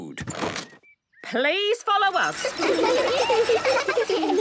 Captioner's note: laughter